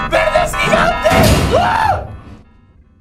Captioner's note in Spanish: Grita